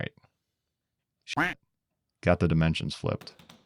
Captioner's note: quack